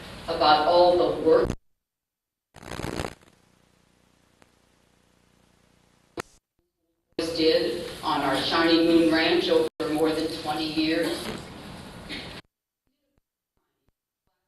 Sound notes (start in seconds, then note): none